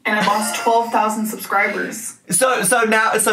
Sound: laughing

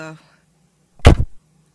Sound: crash

